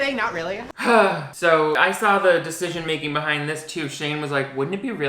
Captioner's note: sighs